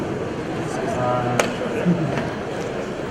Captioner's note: audience laughs